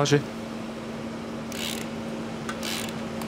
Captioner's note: rattle of a ratchet